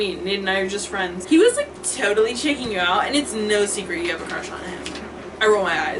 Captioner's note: exaggerated valley girl voice